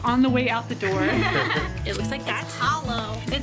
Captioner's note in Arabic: يضحك